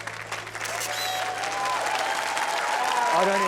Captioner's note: camera flash clicks; cheering, applause